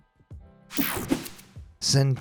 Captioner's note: graphics whooshing